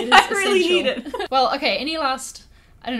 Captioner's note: laughing